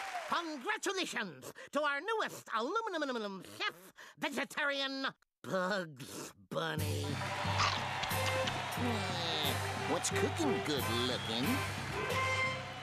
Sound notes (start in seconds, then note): 0.0 crowd cheering; 7.1 audience roaring